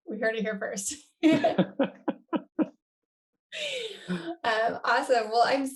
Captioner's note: both laughing